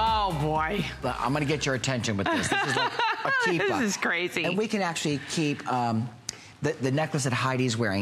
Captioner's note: laughter